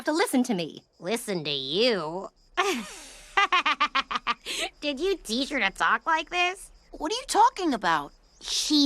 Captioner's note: laughs